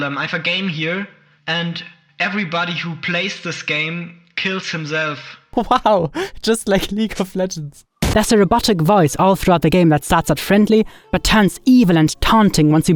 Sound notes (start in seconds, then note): 5.5 laughs